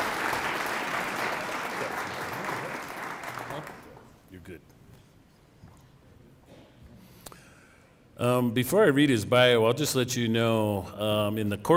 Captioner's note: cheering and applause